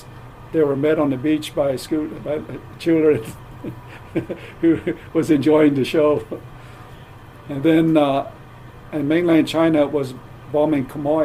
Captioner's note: laughs